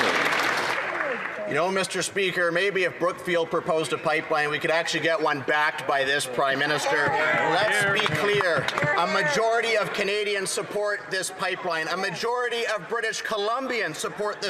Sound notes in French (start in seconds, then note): 5.4 voix de l'interprète